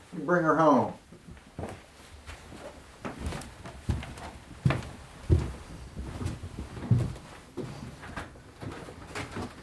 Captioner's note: footsteps out